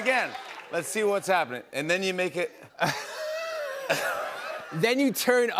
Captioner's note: laughter